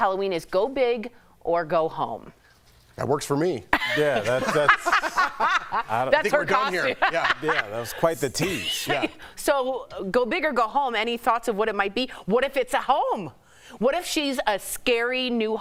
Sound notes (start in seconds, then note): 8.7 laughter